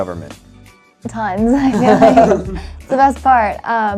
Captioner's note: laughing in unison